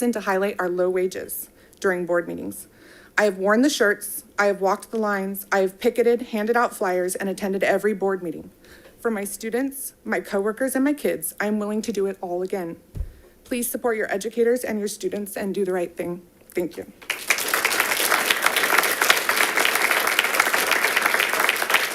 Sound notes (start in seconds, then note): 17.0 audience applauding